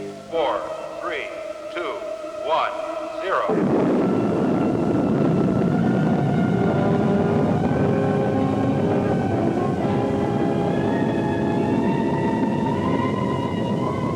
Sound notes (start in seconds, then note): 3.6 rockets rumbling